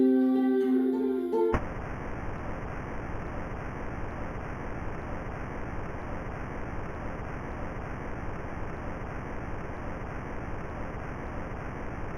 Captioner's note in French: bruit blanc